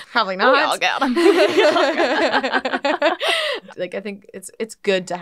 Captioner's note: laughing